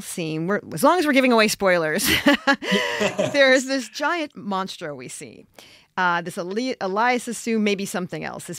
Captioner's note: chuckles